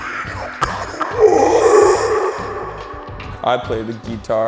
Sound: growling

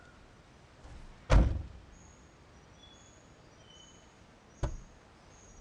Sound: car door slamming

